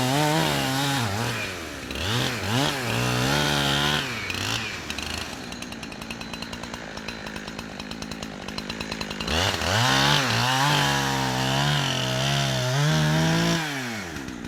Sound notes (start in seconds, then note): none